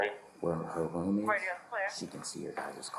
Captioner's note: radio chatter